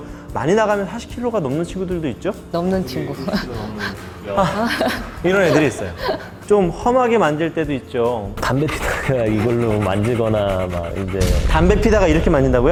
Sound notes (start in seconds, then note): 2.9 laughing